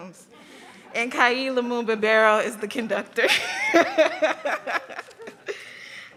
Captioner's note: laughs